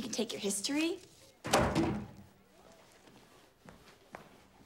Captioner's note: book thuds